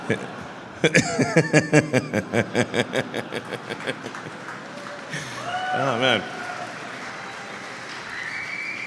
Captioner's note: Laughter; 笑声